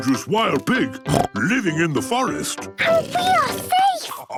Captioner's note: snorts